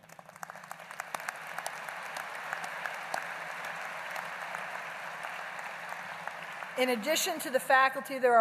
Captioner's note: applause